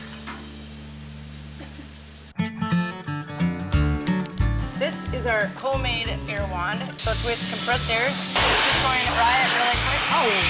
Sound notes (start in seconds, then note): 8.3 loud blowing sound